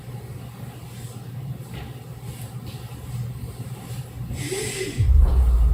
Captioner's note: footsteps; wheeze